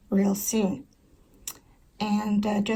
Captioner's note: tongue click